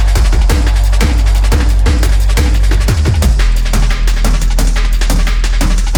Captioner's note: echoes